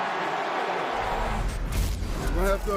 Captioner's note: cheers and applause